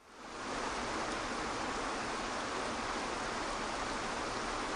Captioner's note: water rushes softly